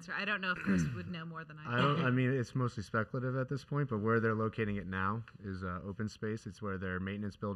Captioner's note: laughing